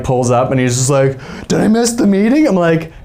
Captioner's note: imitating Blake's voice